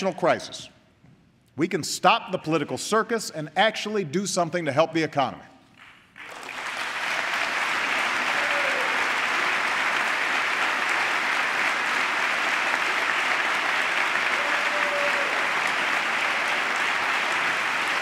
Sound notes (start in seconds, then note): 5.7 applause